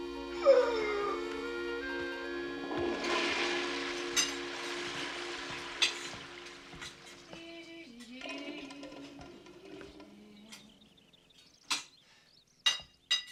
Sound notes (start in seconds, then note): 2.7 toilet flushing; 6.9 Rita humming; 10.8 birds chirping